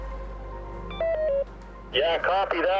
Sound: walkie beeping

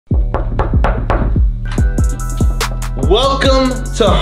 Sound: hands knocks

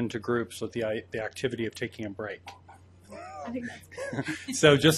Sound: laughs

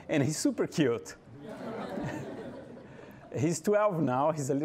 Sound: audience laughing

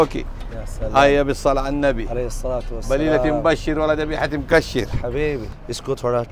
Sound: Arabic

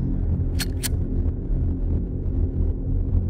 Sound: gun loads

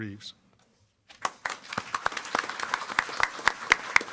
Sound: applause

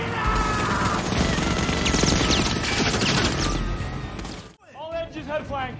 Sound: machine gun firing

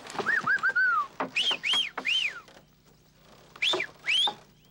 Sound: whistle

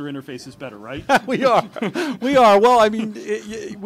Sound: laughs

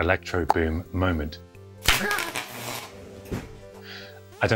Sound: snap,crackle,pop

